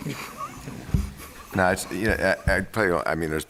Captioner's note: laughter